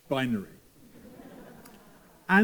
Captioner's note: laughter